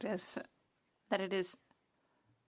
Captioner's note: speaking French